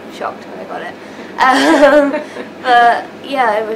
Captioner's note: laughing